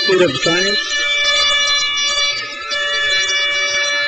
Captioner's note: crowd cheers